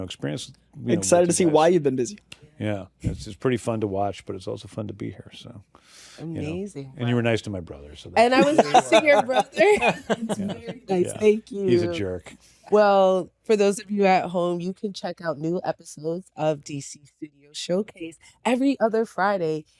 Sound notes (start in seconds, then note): 8.4 laughter